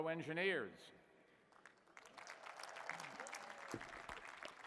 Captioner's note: applause